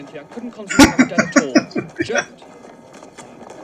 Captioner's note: laughing